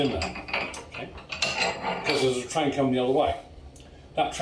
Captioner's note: sliding metal sound